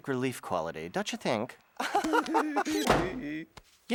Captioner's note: laughing giddily